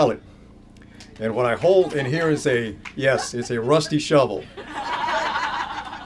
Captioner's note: laughter